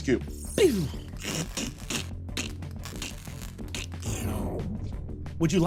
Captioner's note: vocalizes beeps and crackles